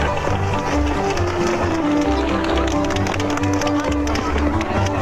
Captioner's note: bull hooves clopping